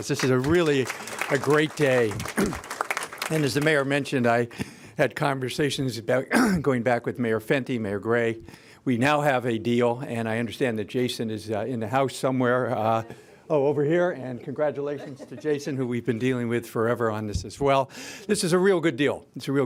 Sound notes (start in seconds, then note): 2.2 applause